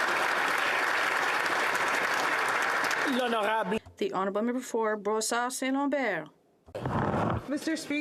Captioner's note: applause